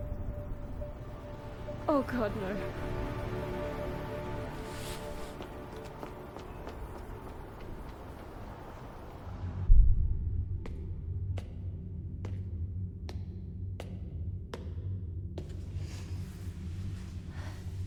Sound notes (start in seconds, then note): 8.8 discomforting rumble; 15.6 deep breaths